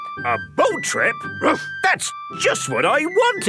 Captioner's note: barks